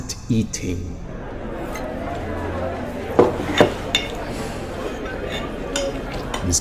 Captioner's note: plates noise